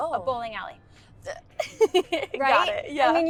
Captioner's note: Georgia laughs